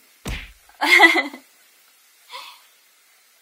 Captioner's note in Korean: 웃음소리